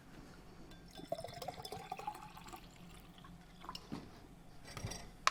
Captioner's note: liquid pouring sounds